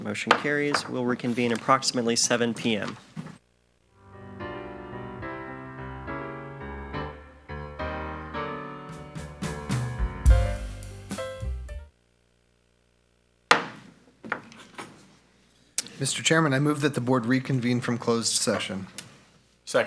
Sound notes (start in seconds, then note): 4.1 steady music; 13.5 gavel taps